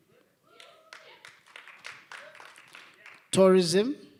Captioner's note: applause